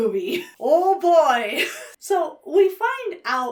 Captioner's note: chuckles